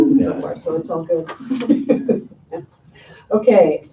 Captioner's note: laughing